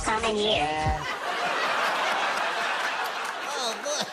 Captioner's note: high-pitched voice; laughter